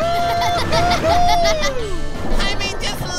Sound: laughing

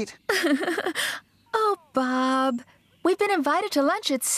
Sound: giggles

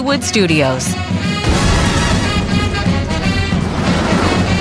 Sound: crashing

